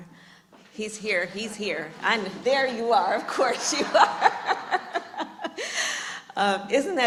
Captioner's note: laughs